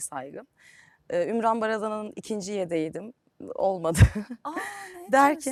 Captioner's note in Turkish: kahkaha